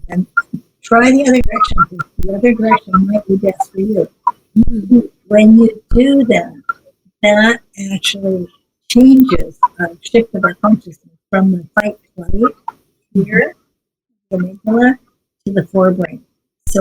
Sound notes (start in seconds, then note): none